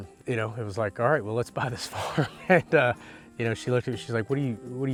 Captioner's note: laughing